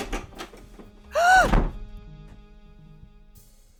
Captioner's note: Angelica gasps